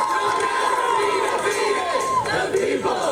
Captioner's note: chanting